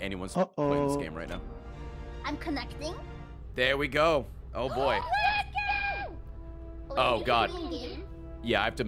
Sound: mic echoing

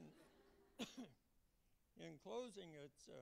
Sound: laughter

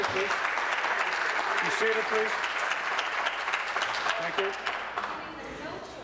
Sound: applause

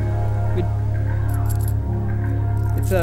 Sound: tiny jingle noises

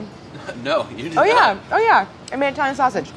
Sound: laughing

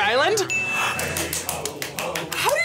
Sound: bell rings; claps

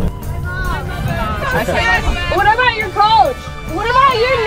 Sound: laughing

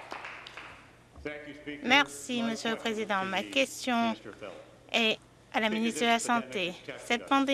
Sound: some Applause

